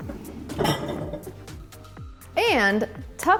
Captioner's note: bowls clinking